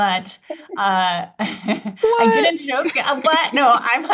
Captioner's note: laughs